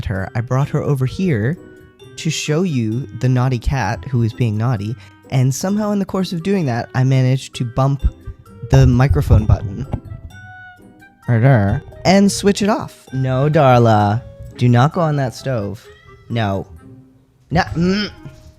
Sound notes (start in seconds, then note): 15.7 meow